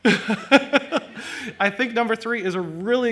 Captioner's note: laughs